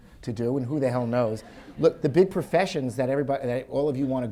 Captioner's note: audience laughs